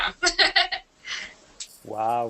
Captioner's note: laughter